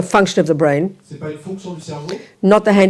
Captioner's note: audience member speaks in French